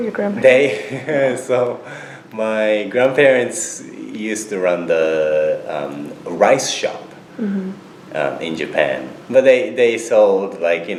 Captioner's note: laughs